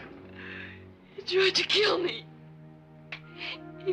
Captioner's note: crying